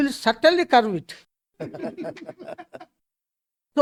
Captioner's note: laughs